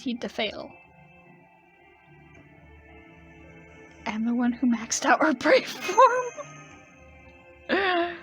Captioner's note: laughing